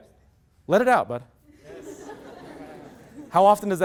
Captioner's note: loud laughter